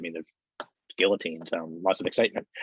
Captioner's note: claps hands